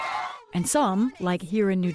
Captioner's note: cheering